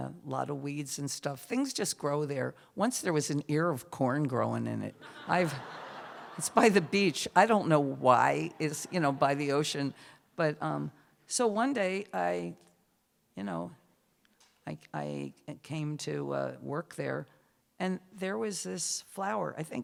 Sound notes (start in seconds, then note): 5.0 laughter